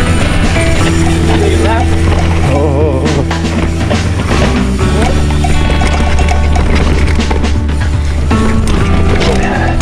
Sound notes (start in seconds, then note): 1.8 groans